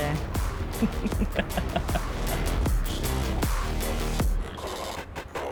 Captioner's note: chuckling